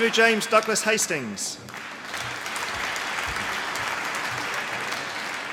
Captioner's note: applause